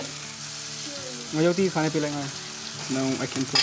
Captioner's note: speaks in foreign language